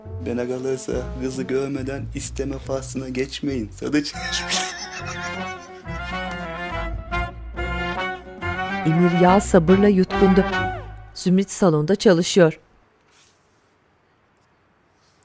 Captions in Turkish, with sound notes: Kızı görmeden isteme faslına geçmeyin sadıç! (Müzik - Hareketli) (Gülme sesi) (Müzik - Hareketli)